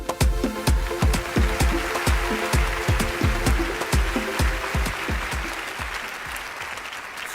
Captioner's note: applause